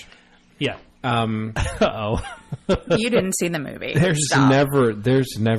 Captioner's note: DJ laughs